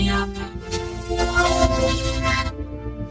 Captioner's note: rubbery squeaking